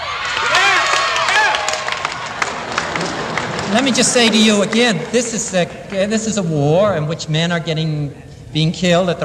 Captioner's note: scattered applause